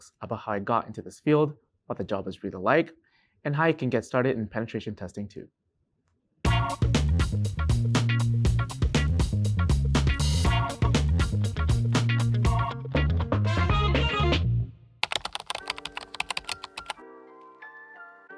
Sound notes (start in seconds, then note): 6.5 intro music; 15.0 keyboard typing